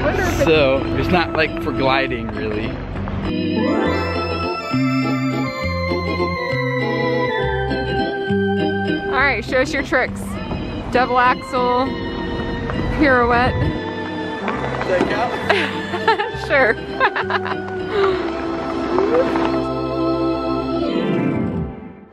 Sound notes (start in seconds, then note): 3.4 comical music continues; 15.2 laughs; 19.3 comical music